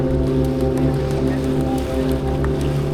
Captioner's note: wind blowing